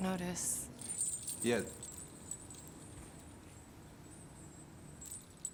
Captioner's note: jewels tinkling